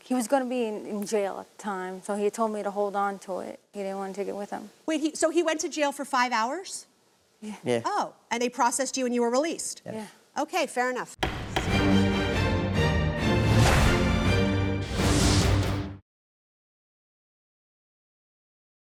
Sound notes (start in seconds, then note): 11.2 gavel bangs; 11.2 energetic music